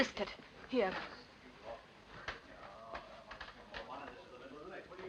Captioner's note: quiet chattering